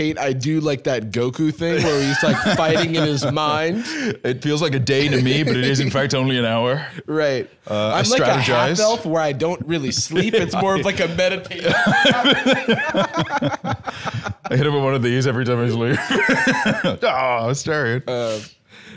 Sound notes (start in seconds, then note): 11.4 both laughing; 15.9 laughs